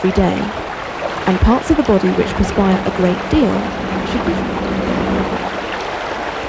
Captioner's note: rushing noise